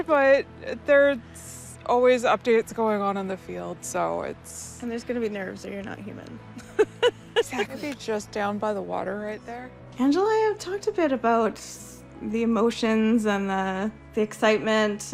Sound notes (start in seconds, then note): 6.6 laughs